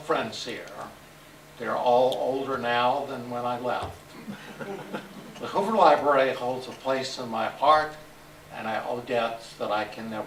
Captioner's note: laughter